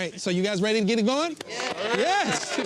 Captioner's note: clapping